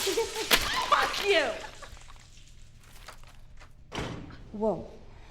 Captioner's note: loud crash